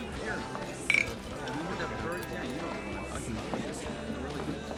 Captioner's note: crowd chattering